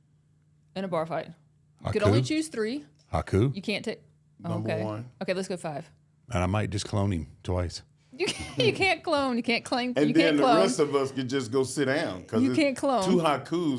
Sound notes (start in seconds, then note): 8.2 laughing